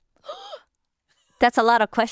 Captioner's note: gasps